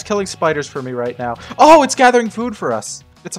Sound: gasps

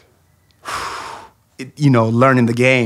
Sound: sighs

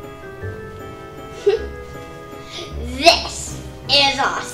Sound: laughs

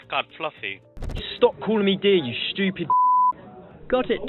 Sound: beep

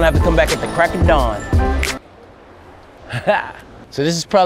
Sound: snap

